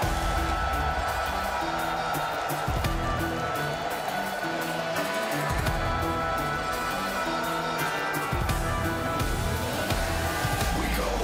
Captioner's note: crowd cheering